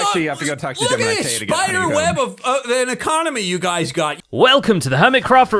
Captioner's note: stammers